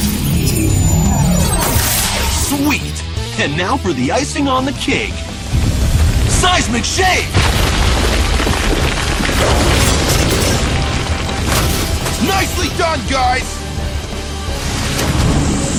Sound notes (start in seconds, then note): 0.0 whoosh